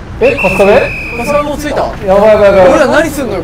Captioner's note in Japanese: ホイッスルの音